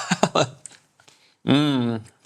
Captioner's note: laughs